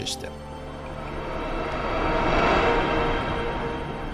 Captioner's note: air whooshing